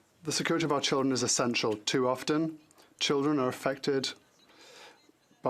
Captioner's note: speaking French